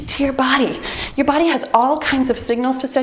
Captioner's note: timer beeps